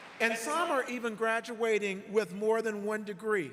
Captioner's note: applause